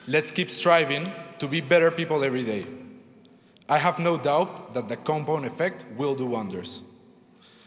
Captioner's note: none